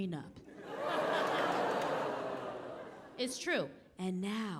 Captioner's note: audience laughing